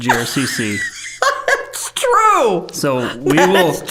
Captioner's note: laughing